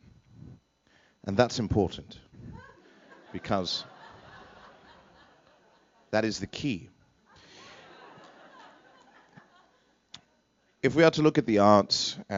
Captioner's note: laughter